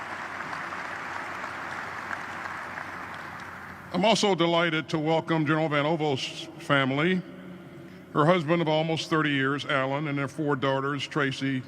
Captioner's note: applause